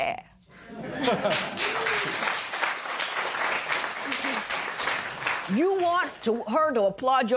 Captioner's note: laughter and applause